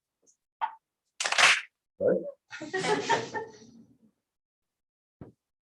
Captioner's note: clap